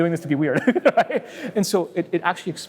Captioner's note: laughs